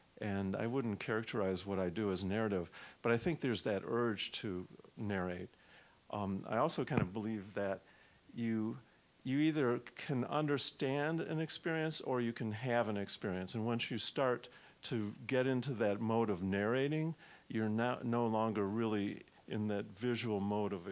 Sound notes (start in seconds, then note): none